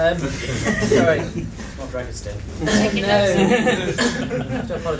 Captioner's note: laughter; different voice